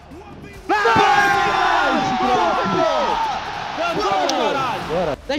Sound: whole team screaming and celebrating the round won

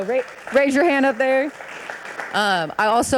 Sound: audience applauding

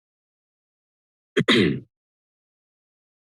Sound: clearing throat; silence

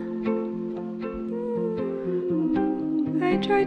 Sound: hmmm

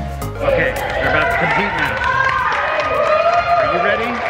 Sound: crowd applauding

